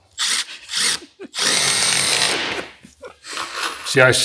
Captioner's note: drill whirring